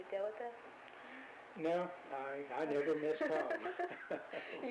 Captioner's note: both laugh; laughs